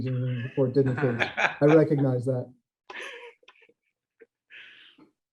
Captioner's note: group laughs